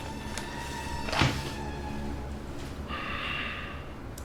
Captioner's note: photos thud